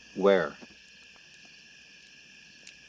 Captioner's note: crickets Chirping